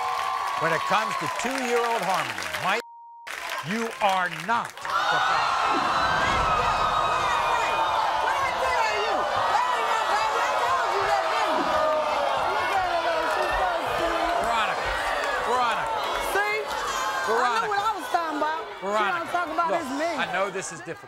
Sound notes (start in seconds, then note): 2.8 beep; 6.6 audience gasps